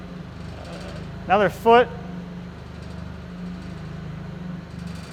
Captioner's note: engine roaring